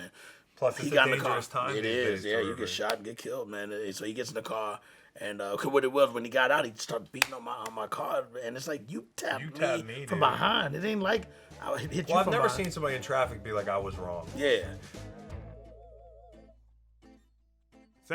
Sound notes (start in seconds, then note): 5.5 stammers; 15.0 upbeat music